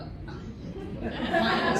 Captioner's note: laughter